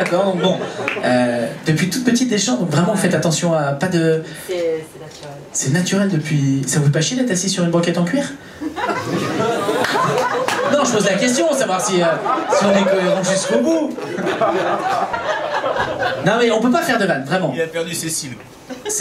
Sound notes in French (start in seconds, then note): 0.0 rires public; 8.8 rires et applaus public; 14.4 rires public